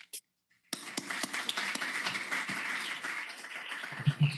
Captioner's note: applause